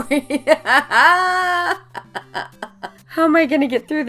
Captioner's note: laughing